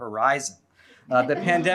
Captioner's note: laughter